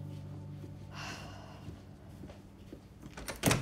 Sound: sighs

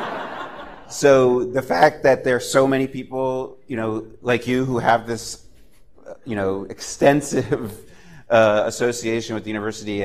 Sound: laughter

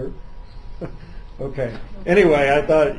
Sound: laughs

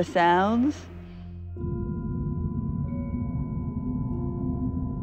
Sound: hollow ringing

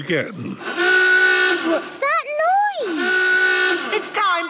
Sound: horn honking; honking

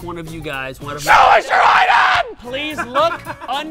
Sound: screaming

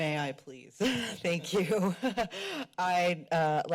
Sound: laughs

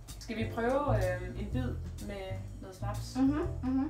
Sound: mhh-hmm Mhh-Hmm

